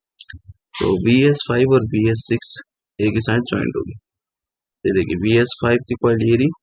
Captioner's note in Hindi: नाक से की जाने वाली आवाज़